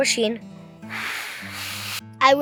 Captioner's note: blowing